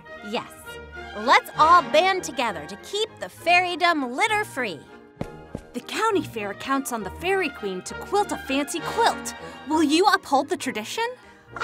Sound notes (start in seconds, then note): none